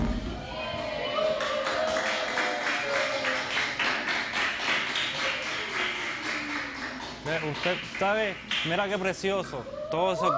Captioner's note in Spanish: Algarabía y aplausos